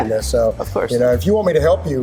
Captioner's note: laughs